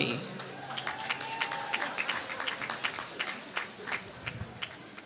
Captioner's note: applause